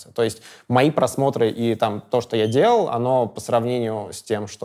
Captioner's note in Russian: none